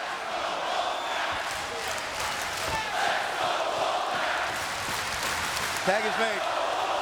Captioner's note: crowd chants "Let's go Wolfpac"